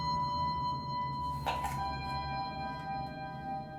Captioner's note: sound of apple being bitten